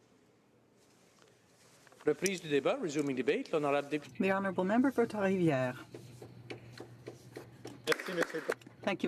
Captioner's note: speaking French